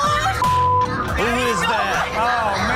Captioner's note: beep sound